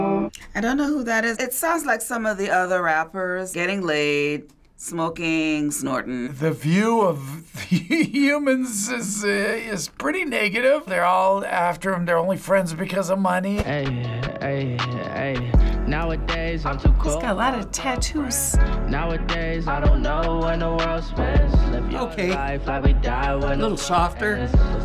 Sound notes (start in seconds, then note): 7.5 laughs